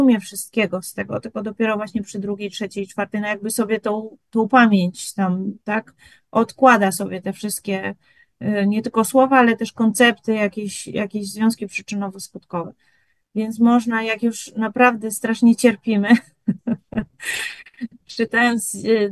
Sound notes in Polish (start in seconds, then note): 16.1 śmiech